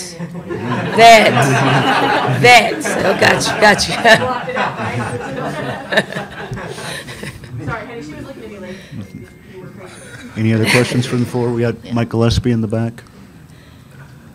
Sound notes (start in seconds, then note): 4.3 Dawn and reporters laugh